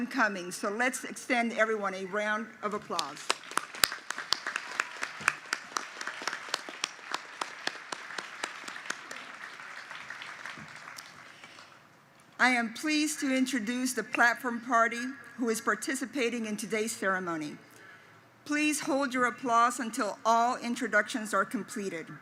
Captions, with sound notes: coming, so let's extend everyone a round of applause. [ Applause ] I am pleased to introduce the Platform Party who is participating in today's ceremony. Please hold your applause until all introductions are completed.